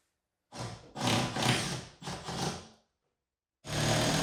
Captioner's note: drill whirring